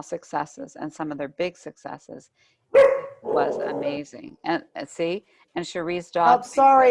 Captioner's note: dog barking